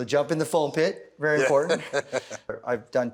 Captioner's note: laughs